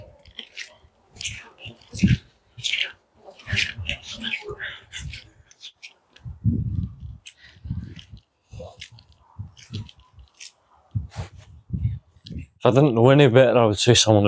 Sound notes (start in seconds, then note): 1.1 footsteps; 6.0 light Wind